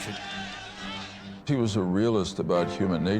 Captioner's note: crowd shouting